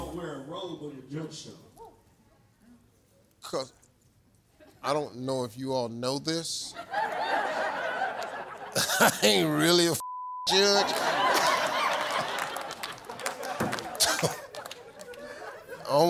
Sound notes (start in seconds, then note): 6.8 audience laughs; 10.0 beep; 10.4 audience laughs and claps